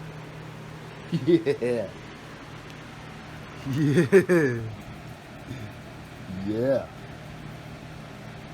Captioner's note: Ella laughs and giggles